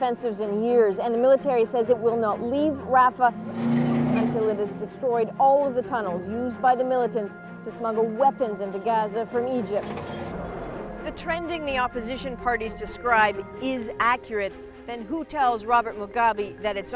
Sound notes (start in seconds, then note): 3.7 tank motors along